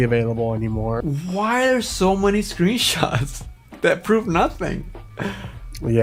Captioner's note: laughs